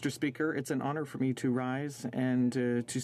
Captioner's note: speaking French